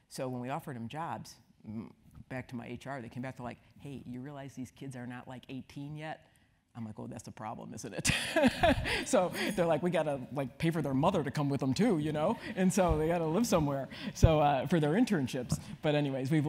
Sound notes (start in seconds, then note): 8.1 laugh